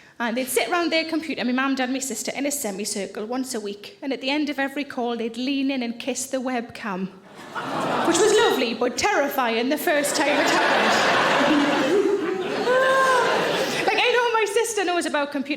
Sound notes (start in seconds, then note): 9.8 audience laughing